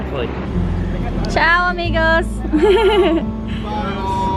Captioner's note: laughs